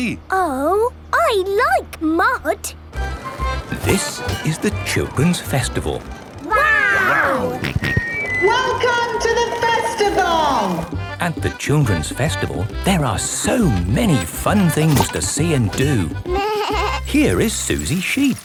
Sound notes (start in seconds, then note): 7.6 on microphone; 9.8 jolly folk music